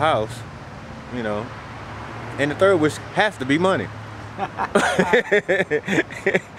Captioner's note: laughs